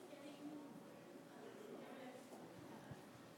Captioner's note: background conversations